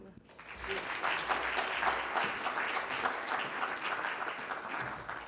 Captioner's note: congregation clapping